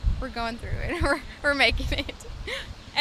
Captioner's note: giggles